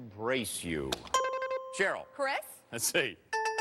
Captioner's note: buzzer rings